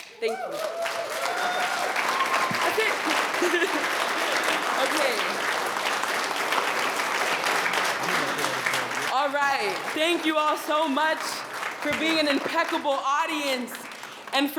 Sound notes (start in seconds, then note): 3.3 attendees cheering and applauding